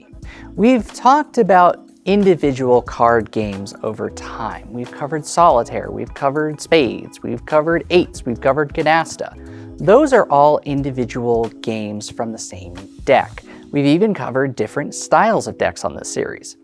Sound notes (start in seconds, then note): none